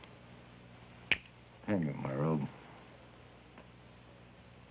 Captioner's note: snaps finger